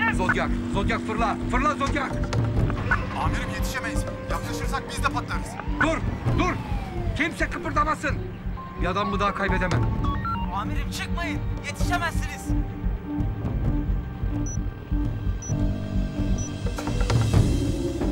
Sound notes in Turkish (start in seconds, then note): 9.9 Telsiz sesi